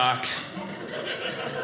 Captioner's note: audience laughing